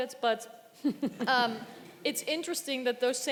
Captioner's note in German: Gelächter im Publikum